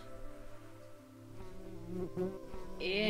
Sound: louder buzzzz

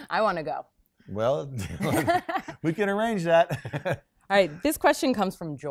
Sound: laughs

